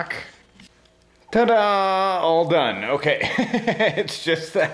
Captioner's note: laughs